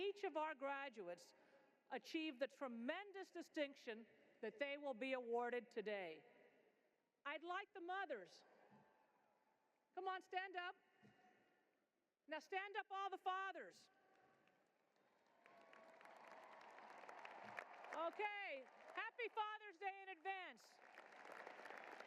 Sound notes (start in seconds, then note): 14.9 cheering and applause